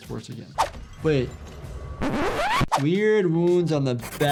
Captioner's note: tape squealing